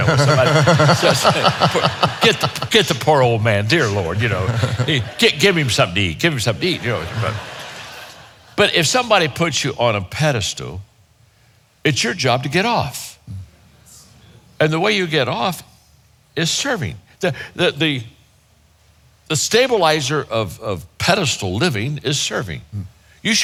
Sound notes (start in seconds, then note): 0.0 all laughing; 7.2 audience chuckling